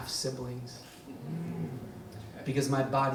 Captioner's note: audience sighs